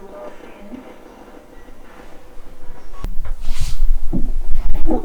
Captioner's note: murmering